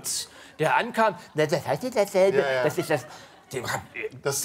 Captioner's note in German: Er äfft Lutz nach